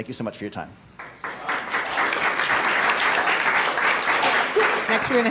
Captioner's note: audience applauding